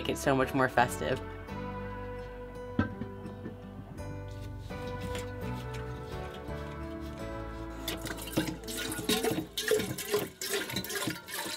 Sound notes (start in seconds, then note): 7.4 water pouring